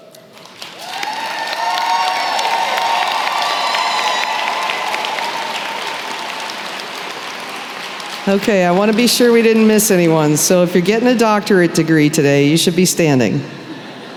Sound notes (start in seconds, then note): 0.6 applause